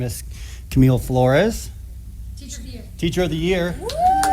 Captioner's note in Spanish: aplausos